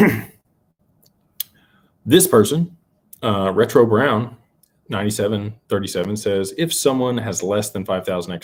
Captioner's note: clears throat